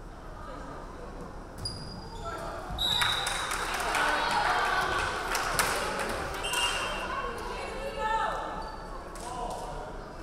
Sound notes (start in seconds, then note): 2.8 referee whistling; 3.1 crowd clapping; 6.5 referee whistling